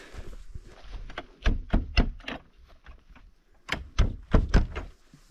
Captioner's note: wooden thudding